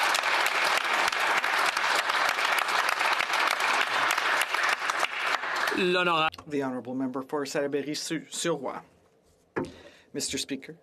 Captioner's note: some Applause